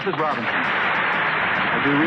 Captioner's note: audience Applause